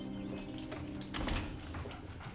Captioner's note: door opens